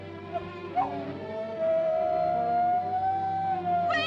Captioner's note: Mowgli howls